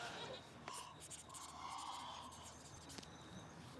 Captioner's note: gasps softly